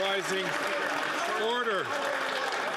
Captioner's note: applause